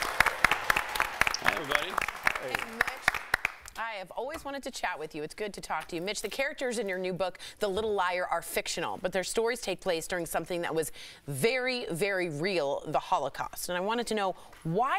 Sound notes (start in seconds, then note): 3.3 applause